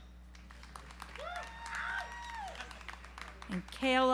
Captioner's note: audience applauds